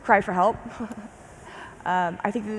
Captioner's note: chuckles